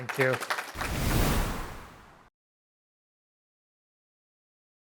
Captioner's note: air whooshes